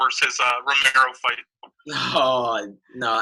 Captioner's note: laughing